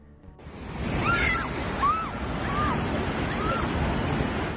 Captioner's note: screams